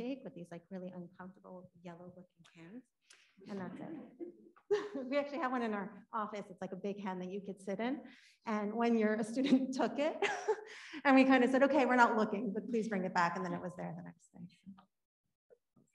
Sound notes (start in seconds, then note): 4.1 audience laughing; 10.5 laughing